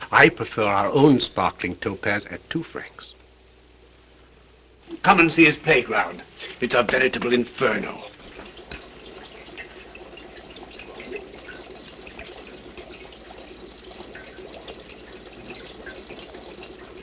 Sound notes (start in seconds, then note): 8.3 bubbling